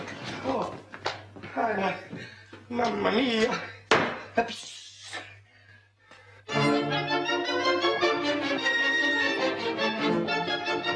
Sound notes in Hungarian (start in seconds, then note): 3.9 hangosan koppant